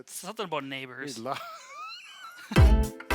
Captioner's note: laughs; lively theme music